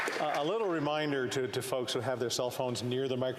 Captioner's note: some Applause